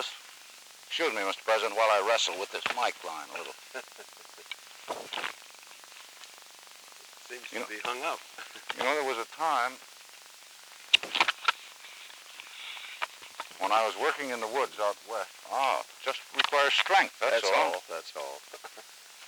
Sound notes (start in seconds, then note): 3.2 Truman chuckles